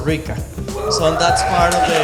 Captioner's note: crowd cheers